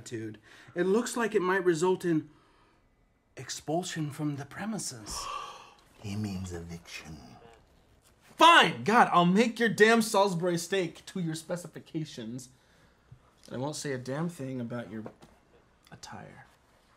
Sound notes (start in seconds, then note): none